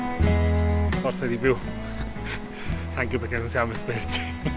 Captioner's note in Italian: risata